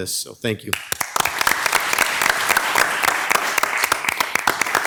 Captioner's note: all clapping